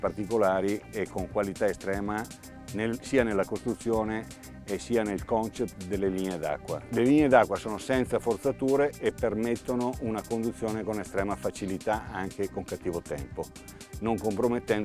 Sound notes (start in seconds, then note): 7.3 speaking foreign language